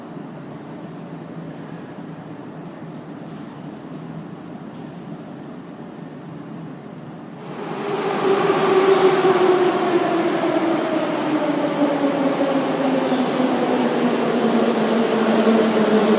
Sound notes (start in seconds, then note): 7.8 arrival of train at the station